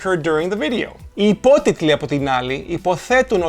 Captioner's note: in Greek